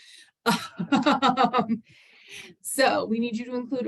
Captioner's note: laughs